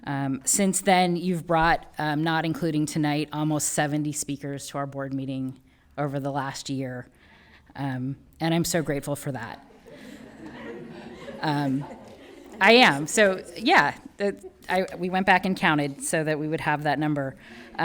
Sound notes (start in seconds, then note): 9.6 people laughing